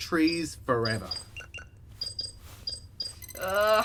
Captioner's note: Solaris beeps at the RGC interface